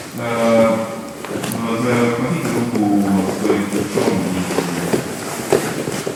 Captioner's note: speaking in a foreign language